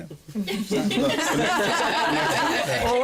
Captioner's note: laughter